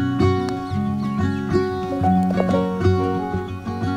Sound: golf club taps

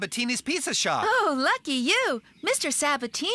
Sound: chuckling

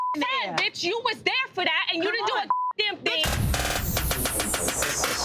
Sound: beep; beep

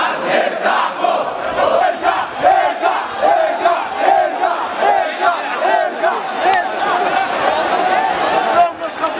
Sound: chants

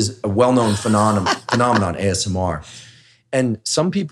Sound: laughs

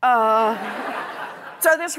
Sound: laughter

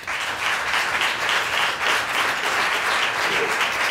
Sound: applause

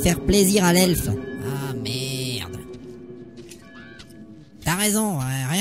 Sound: A Bell rings and crows croak

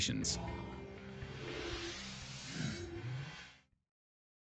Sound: whirring machinery

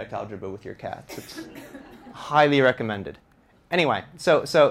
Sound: audience laughter

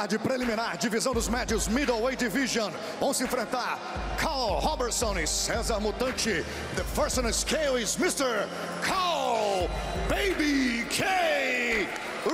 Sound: speaking foreign language

